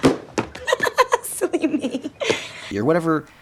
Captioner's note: laughing